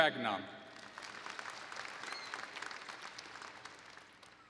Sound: applause

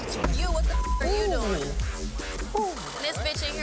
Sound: beep

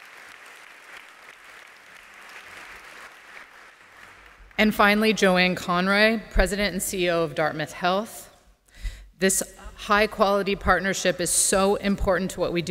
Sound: applause

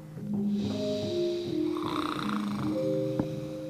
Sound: George snores

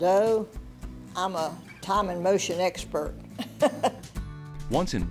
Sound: laughs

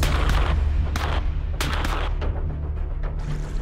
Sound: gunshots

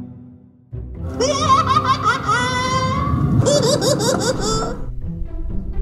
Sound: laughing

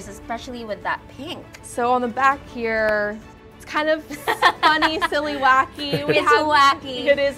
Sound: laughs

